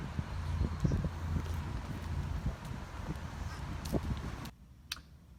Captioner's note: sound of light wind